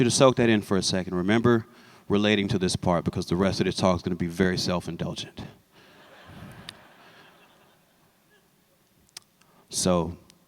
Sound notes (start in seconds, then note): 5.9 laughter